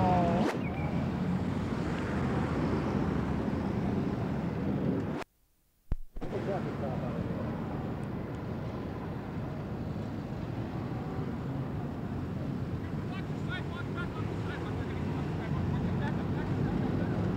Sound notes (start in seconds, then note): 5.8 ambient street noise